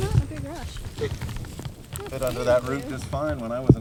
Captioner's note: laughing